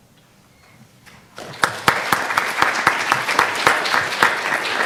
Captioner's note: audience applause